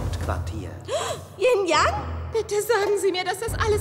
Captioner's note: gasp